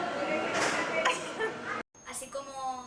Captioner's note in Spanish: risas